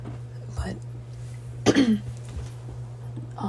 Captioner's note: clears throat